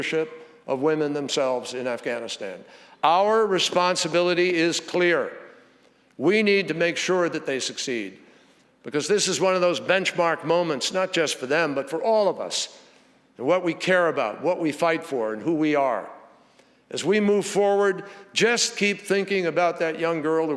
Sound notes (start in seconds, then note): none